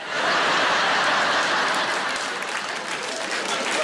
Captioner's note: audience laughs